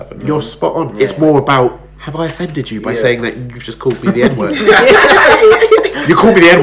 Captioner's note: laughs